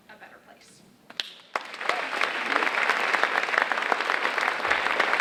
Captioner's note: audience applauding